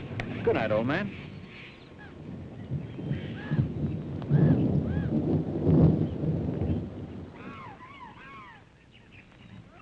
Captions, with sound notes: Good night old man. (thunder rumbling) (animals calling)